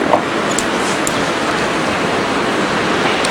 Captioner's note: water splashing